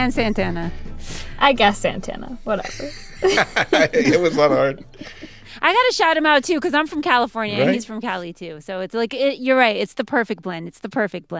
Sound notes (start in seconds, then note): 2.6 laughter